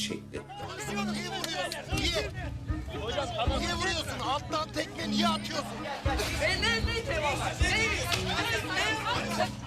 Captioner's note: screaming and fighting